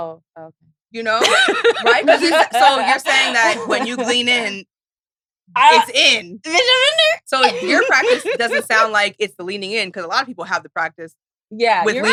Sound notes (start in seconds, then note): 1.2 laughs; 7.4 laughs